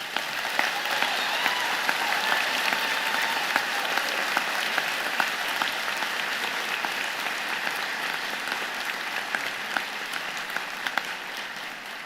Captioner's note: applause